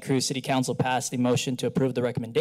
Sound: none

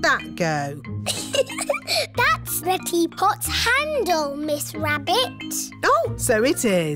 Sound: giggles

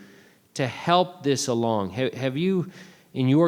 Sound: none

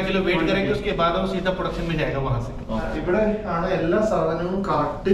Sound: conversation in Hindi

